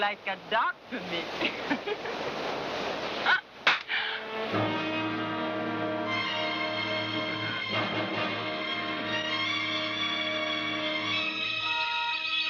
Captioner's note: laughing